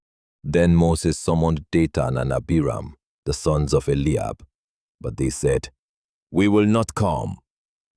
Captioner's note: defiant